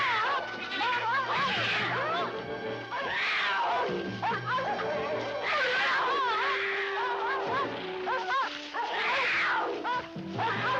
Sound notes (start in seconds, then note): 3.6 dogs barking; 3.6 mountain lion roaring